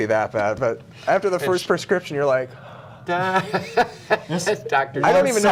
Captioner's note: laughter